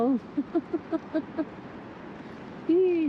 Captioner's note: laughs